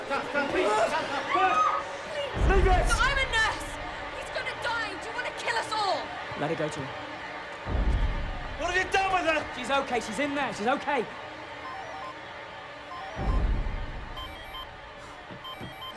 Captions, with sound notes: - No, no, no, please, no, no! - Get back! Leave it! - I'm a nurse! He's gonna die! Do you wanna kill us all? - Let her go to him. - What have you done with her? - She's okay, she's in there, she's okay! (cell phone ringing)